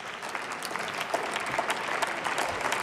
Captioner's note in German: Beifall